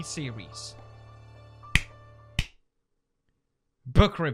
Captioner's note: clap* *Clap